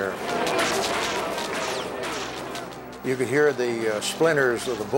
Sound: gun fire

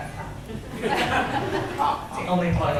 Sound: audience laughs

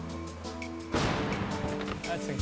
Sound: car crashing

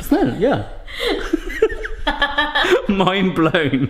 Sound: both laughing

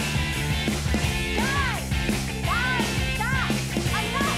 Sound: yells

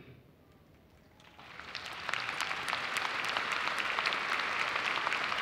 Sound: audience applauds

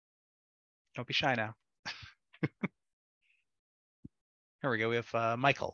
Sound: laughs

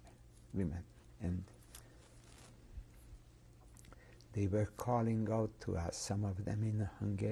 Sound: pauses for 3 seconds

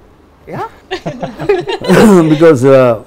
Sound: laughs

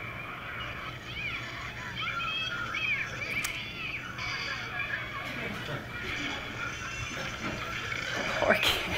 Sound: kids yelling

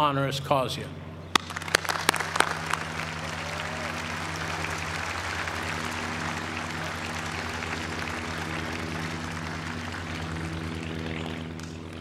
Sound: applause

